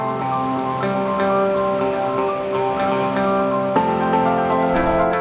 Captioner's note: water rushing